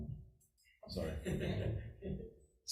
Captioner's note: people laugh